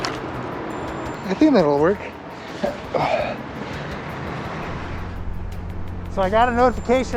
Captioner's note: sighs